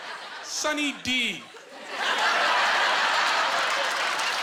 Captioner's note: laughing; applause